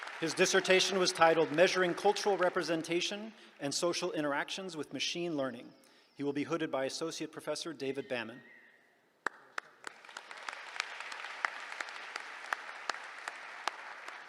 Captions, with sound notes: His dissertation was titled, Measuring Cultural Representation and Social Interactions with Machine Learning. He'll be hooded by Associate Professor David Bamman. [APPLAUSE]